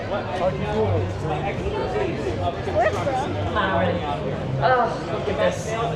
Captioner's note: people chattering in background